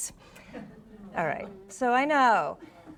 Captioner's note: audience laughs